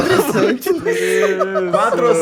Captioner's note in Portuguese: Risadas